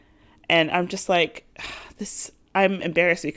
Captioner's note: sigh